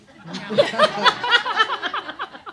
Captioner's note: laughter